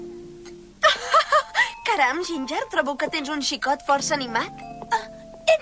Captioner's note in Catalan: riure